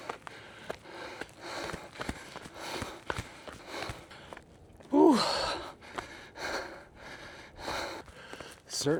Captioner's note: heavy breathing